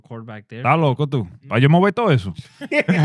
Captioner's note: speaking In Foreign Language